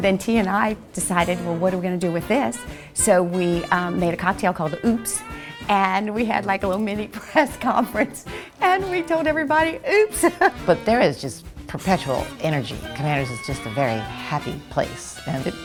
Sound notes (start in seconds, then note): 10.1 laughing